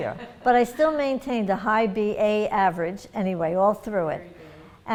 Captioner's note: laughter